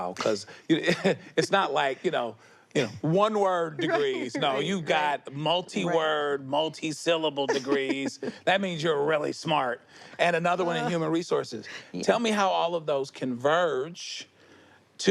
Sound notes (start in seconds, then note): 0.2 laughs; 7.4 laughs